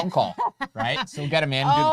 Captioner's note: laughing